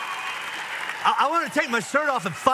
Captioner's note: audience applauds